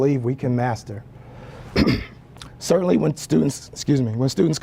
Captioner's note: cough